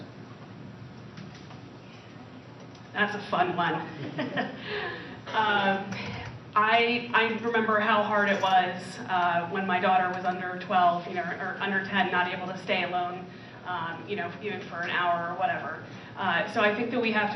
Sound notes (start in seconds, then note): 5.8 laughs